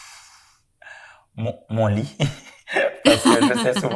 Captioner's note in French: rires